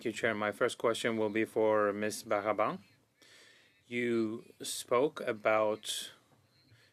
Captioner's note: speaking French